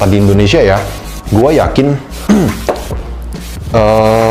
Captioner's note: clears throat